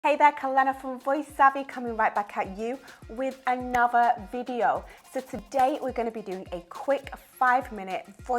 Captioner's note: none